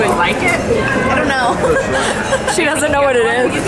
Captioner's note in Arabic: تضحك